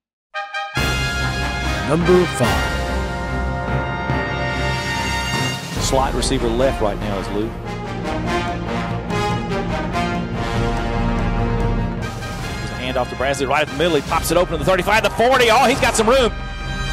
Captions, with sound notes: (triumphant horns) - [Voiceover] Number Five. - [Voiceover] Slot receiver left right now is Lou. (triumphant orchestral music) There's a hand-off to Brazley, right in the middle he pops it open, the 35, the 40, oh he's got some room.